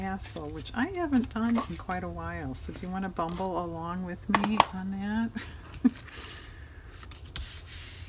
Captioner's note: laughs